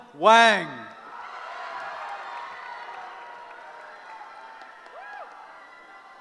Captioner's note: cheering